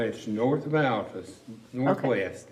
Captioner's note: laughs